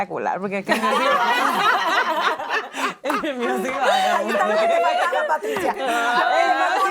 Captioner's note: laugh